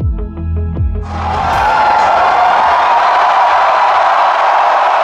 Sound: crowds cheering

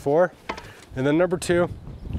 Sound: shovel clunking

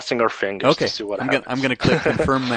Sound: laughs

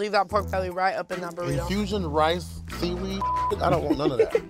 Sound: beep

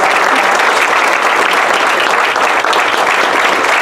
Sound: applause

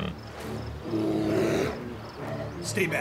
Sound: bear growls

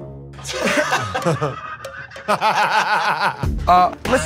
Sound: laughter

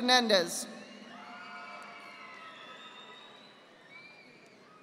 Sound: audience applauding

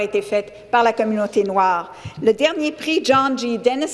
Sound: speaking French

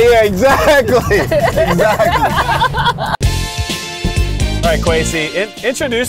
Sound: everyone laughing

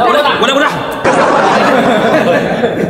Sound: haha

